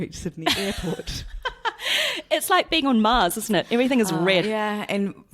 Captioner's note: laughs